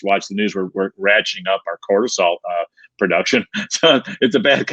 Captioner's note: laughing